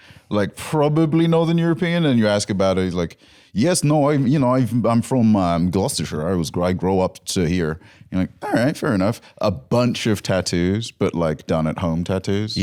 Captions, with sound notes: Like, probably Northern European, and you ask about it and he's like, (nebulous accent) "Yes, no, you know, I'm from Gloucestershire. I grow up here." You're like, "OK, fair enough." A bunch of tattoos, but done-at-home tattoos.